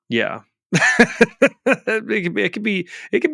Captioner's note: laughing